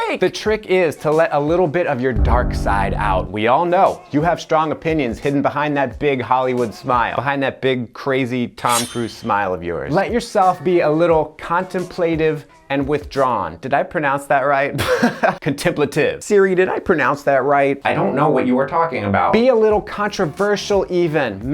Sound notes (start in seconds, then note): 8.6 blade sharpening; 14.8 chuckles